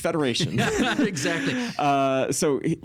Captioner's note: laughing